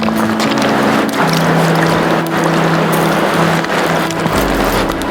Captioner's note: water splashing